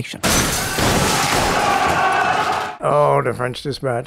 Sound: prisoners yelling

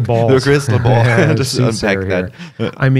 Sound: laughter

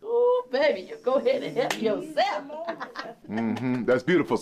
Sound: laughing

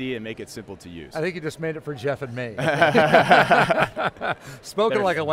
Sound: laughs

